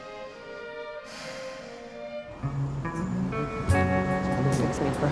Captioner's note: sighing; soft blues music